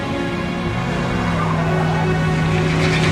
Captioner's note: car engine starts